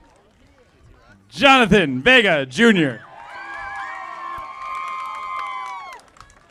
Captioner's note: audience applauding